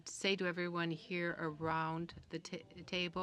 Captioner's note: speaking French